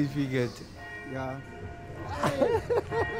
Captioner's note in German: Kirchglocken